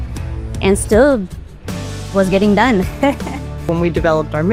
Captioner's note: laughs